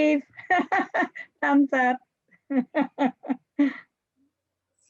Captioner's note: laughs